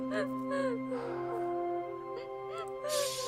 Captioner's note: sighs